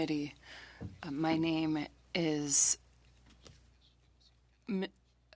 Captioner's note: speaking French